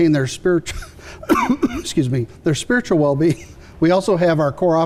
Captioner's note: coughs